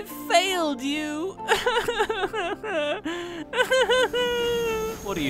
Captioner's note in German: weint